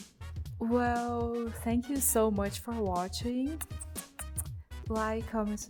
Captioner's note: kiss noises